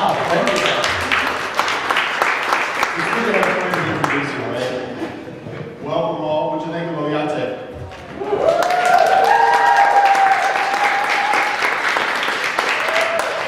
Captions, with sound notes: - Wow, thank you. (audience clapping) It's good to have friends introduce you, right? Welcome all (speaks foreign language) (audience cheering and clapping)